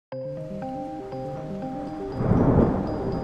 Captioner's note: thunder sounds